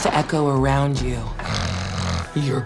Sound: growls

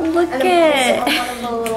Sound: chuckles

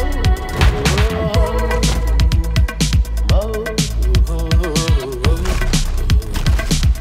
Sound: upbeat music; singer humming

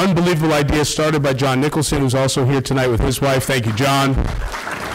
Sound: applause

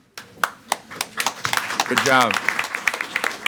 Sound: audience applauds

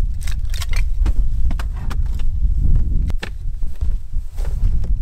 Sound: wind sound

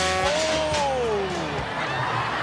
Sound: horn buzzes

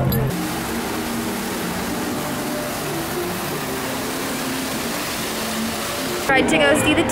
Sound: waterfall sound

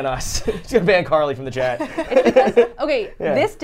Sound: everyone laughs

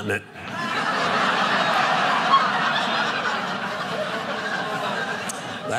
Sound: audience laughing

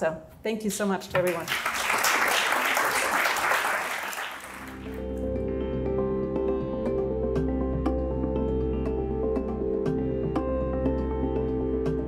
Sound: applause

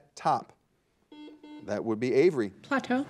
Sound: buzzer dings

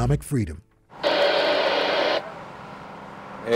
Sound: radio static

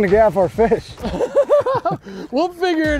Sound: laughing

